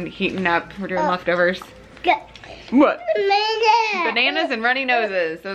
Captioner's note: child babbling